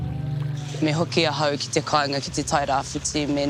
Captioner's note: speaks te reo māori